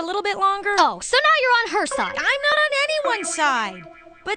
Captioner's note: none